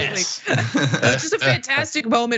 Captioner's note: laugh